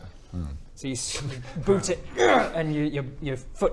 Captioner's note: hrrgh